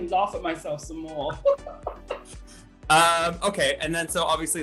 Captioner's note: laughter